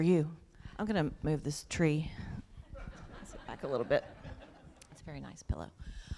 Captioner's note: laughter